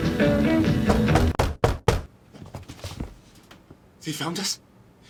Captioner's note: door knock